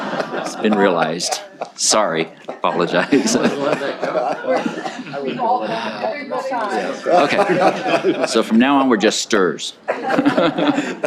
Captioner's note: laughter; laughter